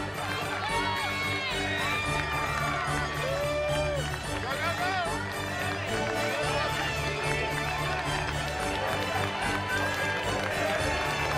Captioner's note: crowd cheers